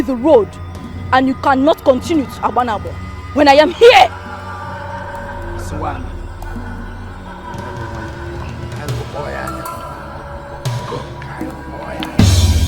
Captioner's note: laughter